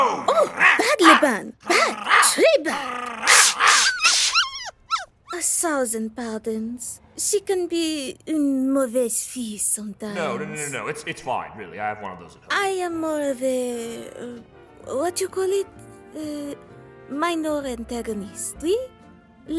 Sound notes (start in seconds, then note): 0.4 barking; 4.5 whimpering